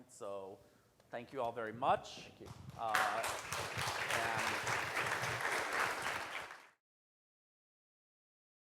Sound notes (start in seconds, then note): 2.5 audience applauds